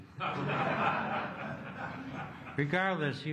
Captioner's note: laughter